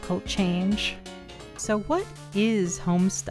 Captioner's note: remote click